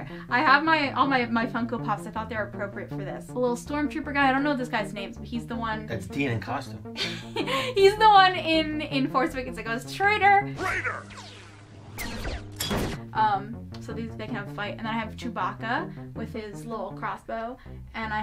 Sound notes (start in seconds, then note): 7.6 laughs; 10.6 blaster shots whizzing; 12.0 metallic thunk